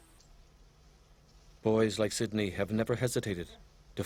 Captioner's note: voiceover